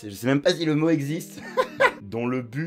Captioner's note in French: rires